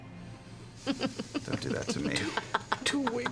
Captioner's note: cackles